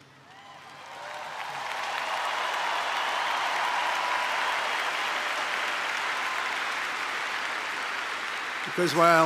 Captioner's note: applause